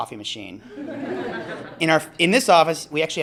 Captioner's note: laughter